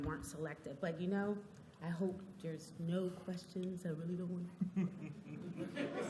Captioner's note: laughter